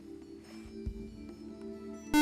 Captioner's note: buzzer